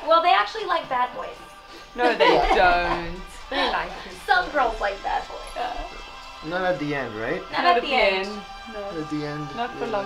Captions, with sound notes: >> Yeah. >> [LAUGH] >> No, they don't. >> Some girls like bad boys. >> Yeah. >> Not at the end, right? >> Not at the end. >> Not the long term.